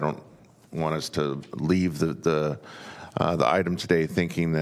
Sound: none

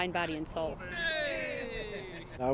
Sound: players cheer

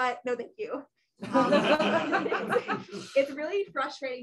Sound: laughter

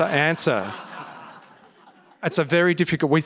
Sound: laughter

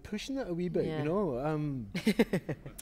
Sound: laughter

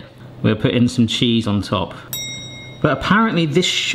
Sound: bell dinging

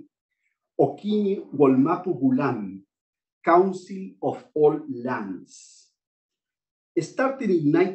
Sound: non-english speech

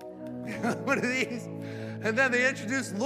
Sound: claps hands; laughs

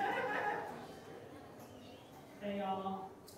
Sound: audience member laughing

